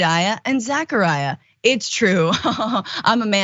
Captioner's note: laugh